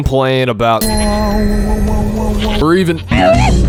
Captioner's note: weird Monk Making Weird Noise